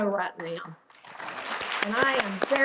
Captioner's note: audience applauding